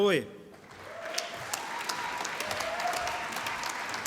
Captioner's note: clapping and cheering